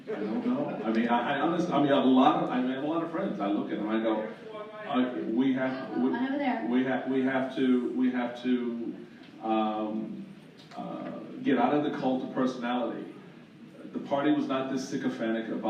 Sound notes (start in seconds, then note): 3.1 shouts from the audience